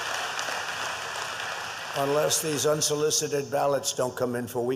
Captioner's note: applause